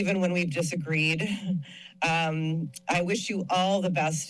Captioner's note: chuckles